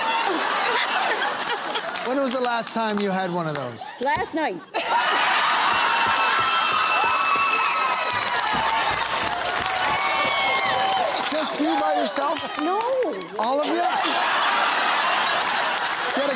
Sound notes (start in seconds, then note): 0.1 laughing and applause; 4.6 laughing; 6.6 cheering and applause; 14.4 laughing and applause